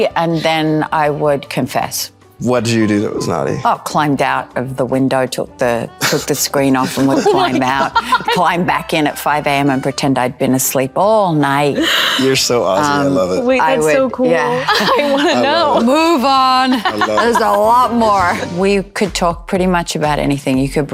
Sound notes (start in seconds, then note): 6.6 laughing; 16.7 laughing